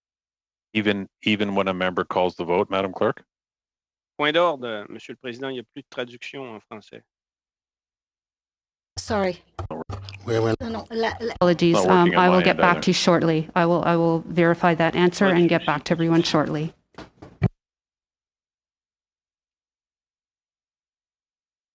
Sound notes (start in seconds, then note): 11.7 speaking in French